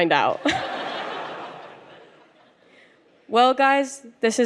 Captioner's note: audience laughs